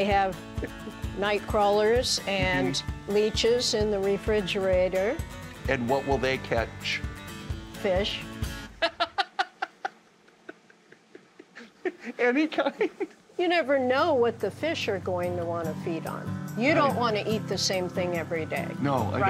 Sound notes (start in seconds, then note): 8.8 laughing